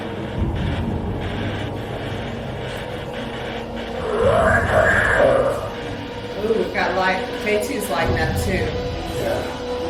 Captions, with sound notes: (equipment grunts) - We've got light with the K2's lighting up too.